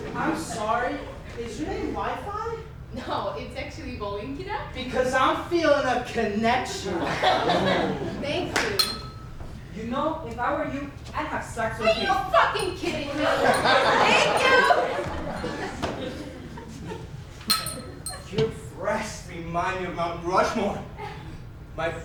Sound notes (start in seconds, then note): 8.8 ding; 17.5 ding